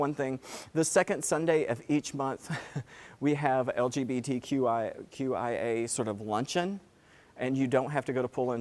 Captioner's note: laugh